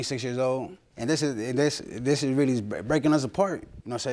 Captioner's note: stammers